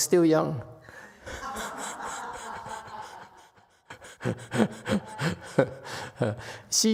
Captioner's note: audience laughs; laughs